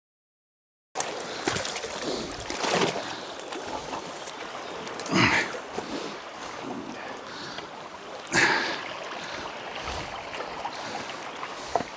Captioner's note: water splashing